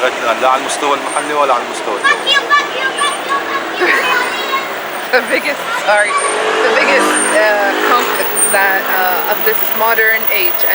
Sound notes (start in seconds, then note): 1.8 kids screaming fuck you, fuck you